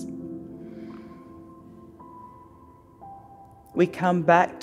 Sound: inhales

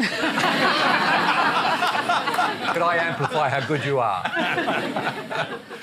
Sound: laughter

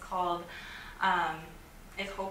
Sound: takes breath

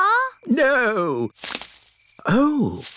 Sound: rustling

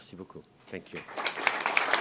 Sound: applause

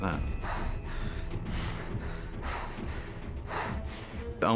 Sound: panting

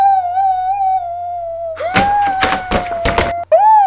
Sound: screams

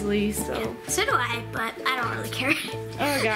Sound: chuckles

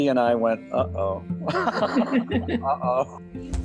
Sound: both laughing

